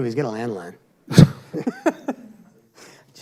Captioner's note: laughter